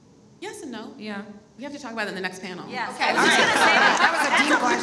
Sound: all laugh

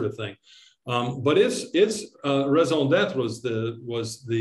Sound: speaking in foreign language

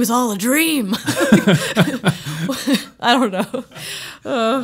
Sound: laughing

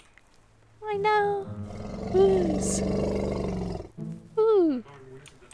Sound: being excited for baby rhino ooo's

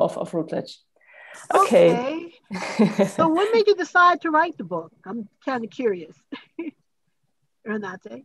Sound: laughs

